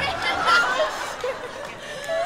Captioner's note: laughter